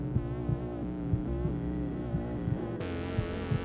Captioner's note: radio turns on